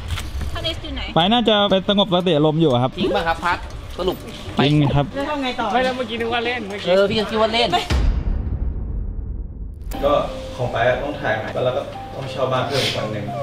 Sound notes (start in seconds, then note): 1.1 pat; 4.3 pat